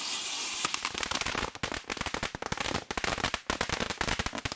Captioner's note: fireworks crackling